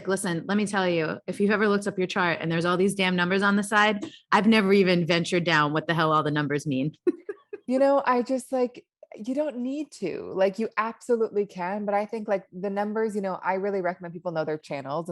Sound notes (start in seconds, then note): 7.0 laughs